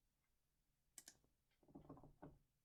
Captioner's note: click